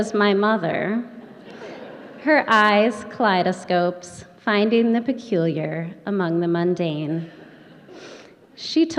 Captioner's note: laughter